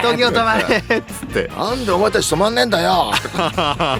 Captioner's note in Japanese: 笑い